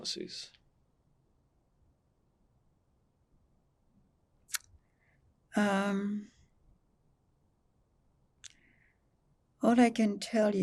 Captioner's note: pauses 8 seconds